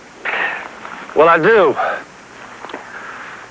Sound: sighs

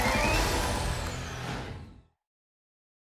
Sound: whoosh

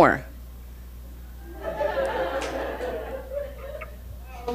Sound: audience laughing

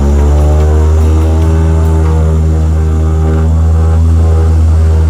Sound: oriental music; engine roaring

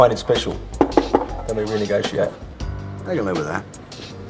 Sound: knocking on table

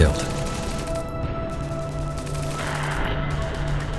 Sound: gunfire echoing

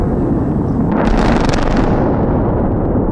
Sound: explosion

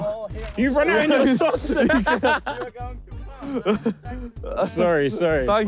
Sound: laughing

